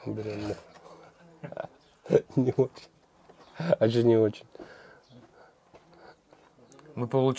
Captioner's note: giggling